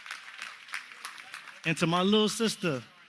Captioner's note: applause